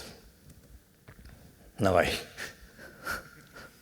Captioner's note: chuckles